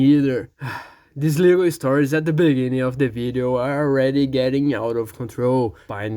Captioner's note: sigh